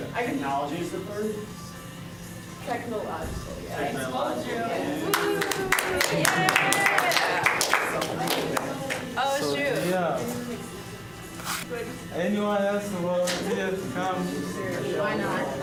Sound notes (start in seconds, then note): 5.0 cheering; 15.4 bustling conversation